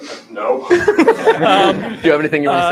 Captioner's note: laughter